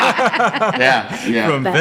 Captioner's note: laughing